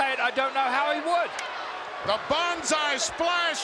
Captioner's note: Yokozuna claps